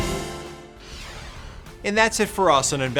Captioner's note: inspiring music intensifies; graphics whooshing